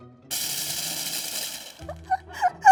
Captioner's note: food processor running; laughing